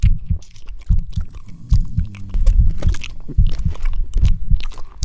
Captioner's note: chewing sounds